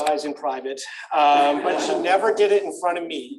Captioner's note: laughter